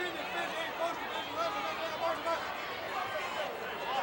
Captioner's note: wrestlers chattering